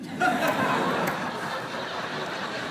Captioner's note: laughter